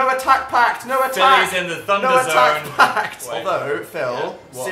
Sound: laughs

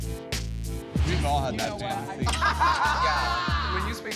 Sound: laughter

